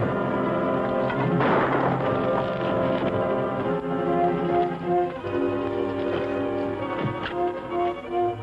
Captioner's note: gunshot